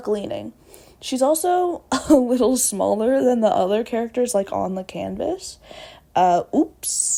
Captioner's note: laughs